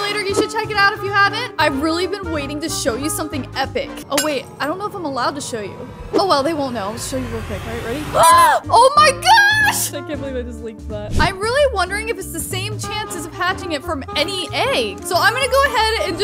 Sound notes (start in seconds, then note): 8.4 gasps